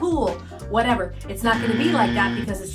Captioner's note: buzzer buzzes